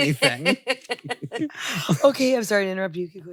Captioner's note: laughs